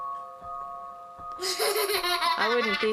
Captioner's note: laughs